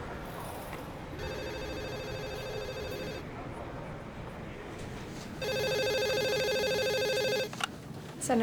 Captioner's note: phone rings